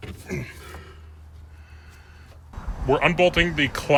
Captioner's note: grunting